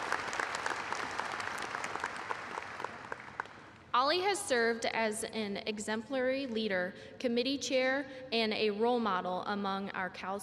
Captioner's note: applause